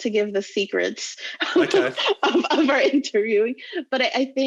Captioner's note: laughs loudly